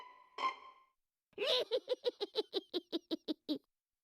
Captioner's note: cackling